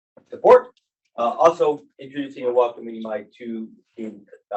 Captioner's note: speaking faintly